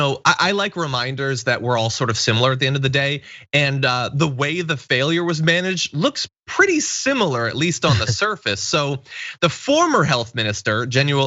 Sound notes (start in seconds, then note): 7.9 laugh